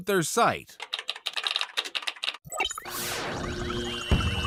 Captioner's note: typing sound; computer noises, explosions and pops